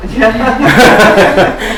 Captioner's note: chuckles